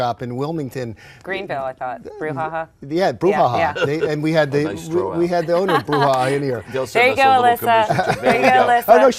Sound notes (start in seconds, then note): 3.6 laughs